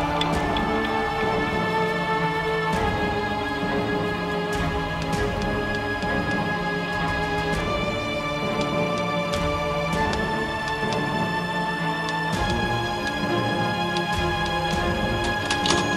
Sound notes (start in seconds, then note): 0.6 somber music; 6.1 typewriter keys clacking